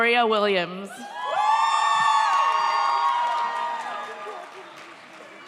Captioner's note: audience cheers